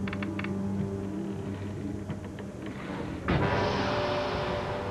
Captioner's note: wood creaking; dramatic music